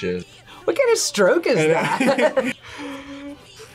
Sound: both laugh

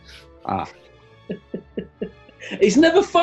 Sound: quietly chuckling

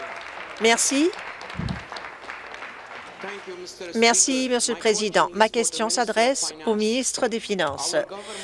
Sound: applause

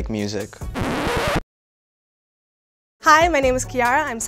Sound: record scratches

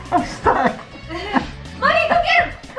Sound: laughs

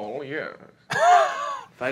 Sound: chuckling

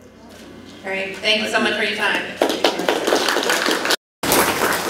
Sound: applause

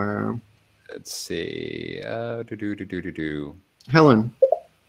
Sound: humming

